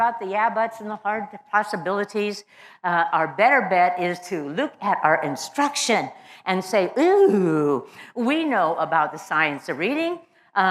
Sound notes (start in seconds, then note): none